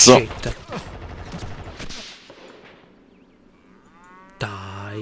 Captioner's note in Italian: rumori di mitragliatrice